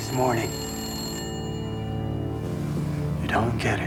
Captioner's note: ringing continues